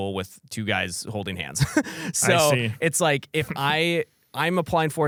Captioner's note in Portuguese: risos